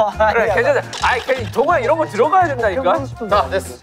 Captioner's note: arguing